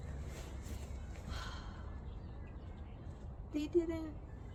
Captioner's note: exhales loudly